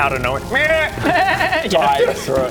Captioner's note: baaaaaa!